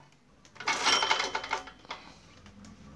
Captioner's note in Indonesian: bunyi mesin